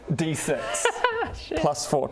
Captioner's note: hysterical giggle